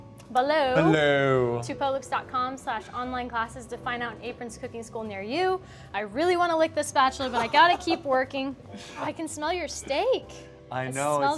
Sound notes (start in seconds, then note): 7.3 laughs